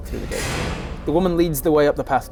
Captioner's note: clunk